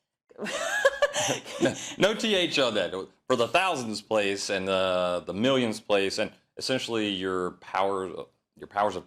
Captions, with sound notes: No, 1,000, not th, [LAUGH]. -[LAUGH] No th on that. For the thousandths place and the millionths place, and